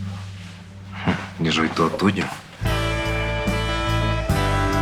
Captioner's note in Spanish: Ríe